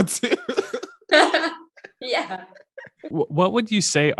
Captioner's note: laughing